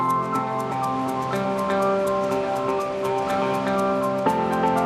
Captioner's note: water rushes